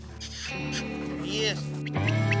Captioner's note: dog panting; calling; whistling